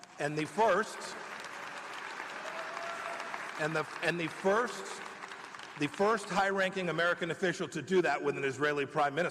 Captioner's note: applause